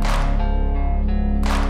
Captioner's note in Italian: Applauso